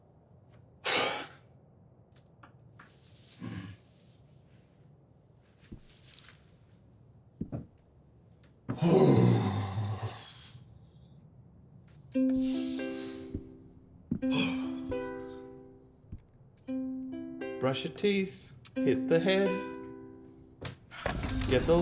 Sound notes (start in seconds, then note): 9.0 Jake clears throat